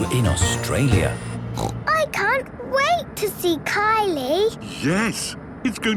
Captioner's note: snorting